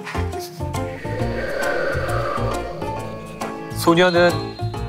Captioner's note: A sound effect of wind